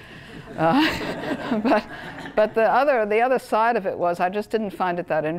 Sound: laugh

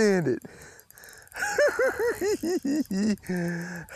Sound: giggling

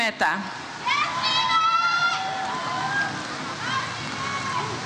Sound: audience cheers

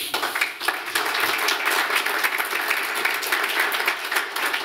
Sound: applause

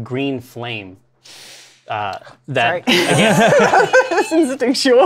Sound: sucks in breath; laughter; laughs

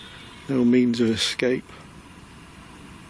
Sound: none

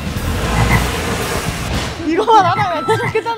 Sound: croaking sound

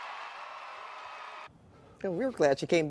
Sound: cheering and applause

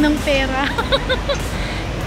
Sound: laughing

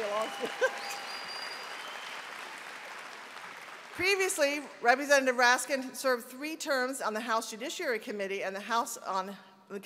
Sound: applause

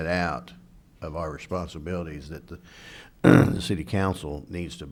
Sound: clears throat

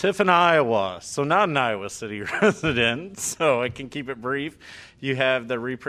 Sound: laughter

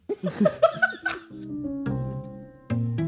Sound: laughing

